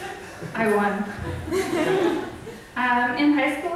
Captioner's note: audience laughs